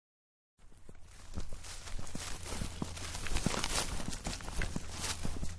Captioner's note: crunching grass